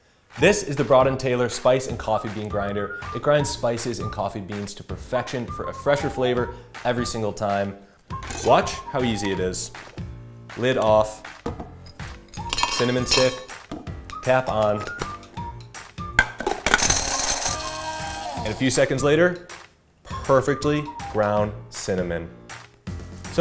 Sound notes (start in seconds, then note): 16.7 coffee grinder whirs on